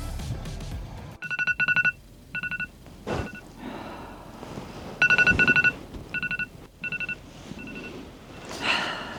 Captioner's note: alarm ringing